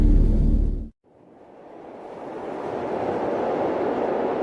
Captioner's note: wind whooshing